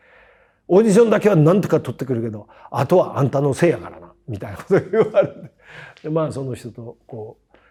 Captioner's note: laugh